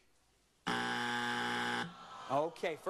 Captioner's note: buzzer